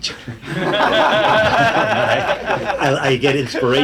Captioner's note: audience laughing